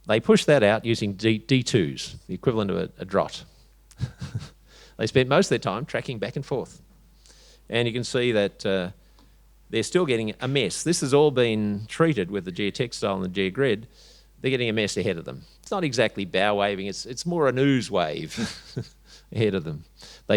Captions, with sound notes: they pushed that out using D2s, the equivalent of a drot. (chuckles) They spent most of their time tracking back and forth, and you can see that they're still getting a mess. This has all been treated with the geotextile and the geogrid. They're getting a mess ahead of them. It's not exactly bow-waving, it's more an ooze wave (chuckles) ahead of them.